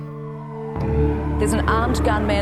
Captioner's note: sirens blaring